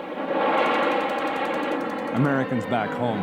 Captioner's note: jets roaring; machine guns rattling